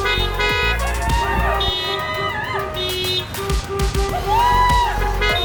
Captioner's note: crowd cheering